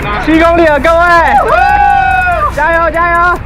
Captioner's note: cheers